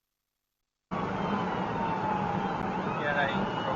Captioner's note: police car siren; man talking on police radio